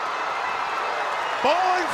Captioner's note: crowd cheering